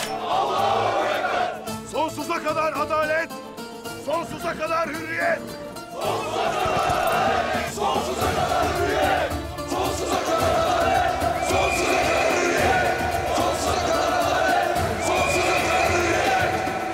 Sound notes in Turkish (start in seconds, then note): 0.1 Hep bir ağızdan; 5.9 Hep bir ağızdan; 9.6 Hep bir ağızdan; 13.2 Hep bir ağızdan